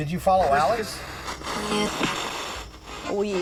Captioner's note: spirit box voice